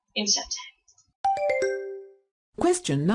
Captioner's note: question ding